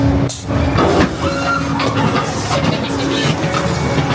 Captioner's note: spooky magical intro music; machine cranking; guest screaming; scareactor laughs wickedly; spooky magical intro music